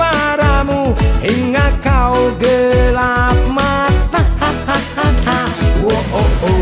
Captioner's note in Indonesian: ha ha ha ha